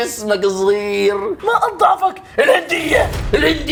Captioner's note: none